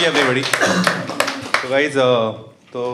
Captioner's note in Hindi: तालियां